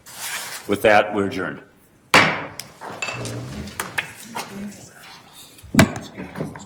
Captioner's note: gavel pounds